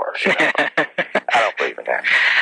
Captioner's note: laughs